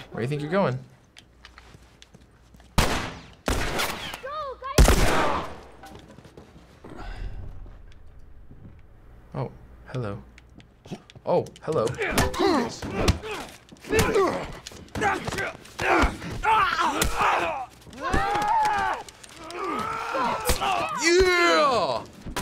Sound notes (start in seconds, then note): 2.8 bullets whizzing; 12.3 Joel grunting; 13.8 grunting fiercely; 17.9 grunting and groaning